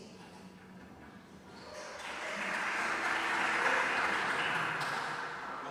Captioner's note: applause